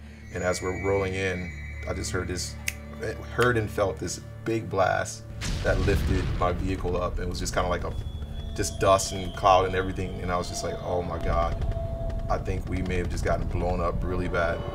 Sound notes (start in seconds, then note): 5.3 explosion sound